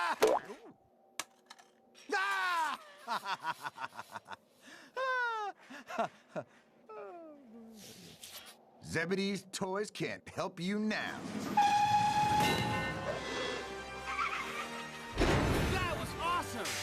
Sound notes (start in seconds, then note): 2.5 evil laughter; 11.5 train whistle blows